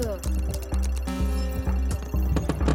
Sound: chimes; thudding

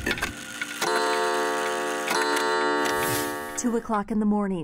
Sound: clock sounding

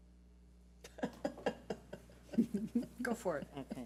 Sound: laughs

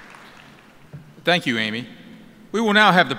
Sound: applause

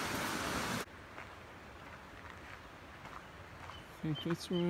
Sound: footsteps on gravel

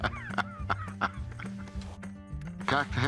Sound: laughs

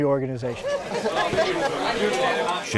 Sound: crowd chattering

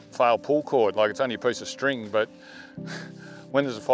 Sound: exhales sharply

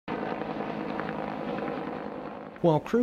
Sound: helicopter nats

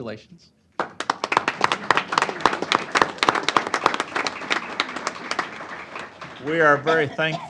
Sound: applause

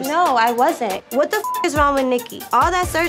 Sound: beep

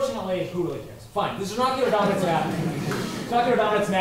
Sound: laughter

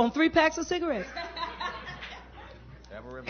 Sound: laughter

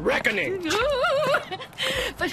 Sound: woman exclaims with nervous excitement

